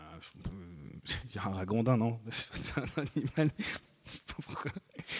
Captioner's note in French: rires